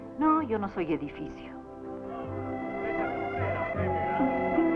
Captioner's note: chattering